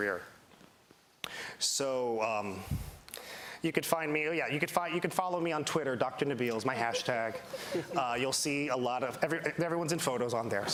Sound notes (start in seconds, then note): 8.3 laughter